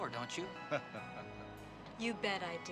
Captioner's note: Captain laughing